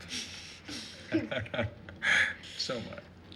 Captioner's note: chuckling